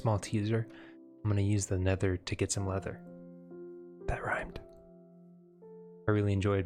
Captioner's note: whisper